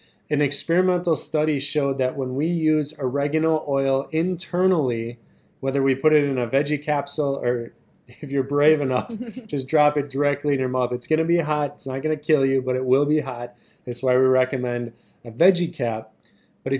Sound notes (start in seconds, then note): 8.6 both laugh